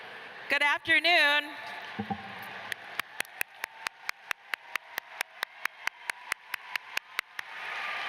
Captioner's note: applause